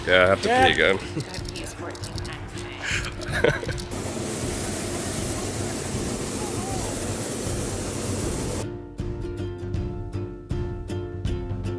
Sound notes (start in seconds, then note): 2.8 laughing; 3.8 hot air balloon firing; 8.6 lighthearted music